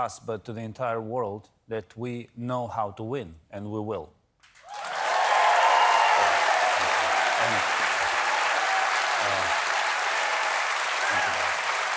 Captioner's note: applause